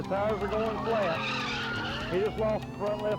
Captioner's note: tires screeching